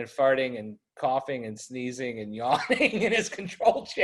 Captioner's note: laughs